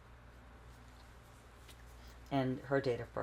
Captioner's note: wiping nose